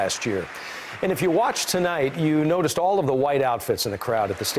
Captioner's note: applause